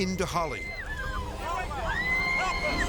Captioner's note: woman screaming; people screaming